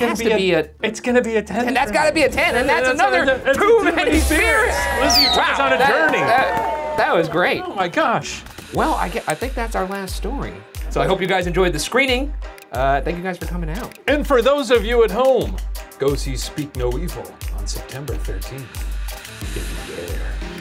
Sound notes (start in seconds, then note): 5.0 audience clapping; 10.5 dramatic music